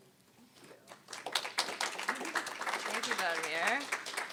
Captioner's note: applause